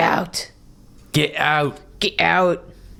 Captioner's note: vaguely british